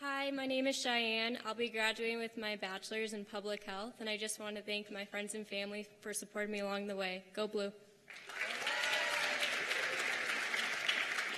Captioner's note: cheers and applause